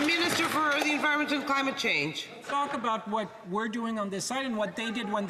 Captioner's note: some Applause